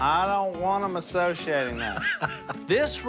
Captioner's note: laughs